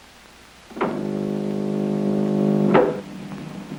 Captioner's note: buzzing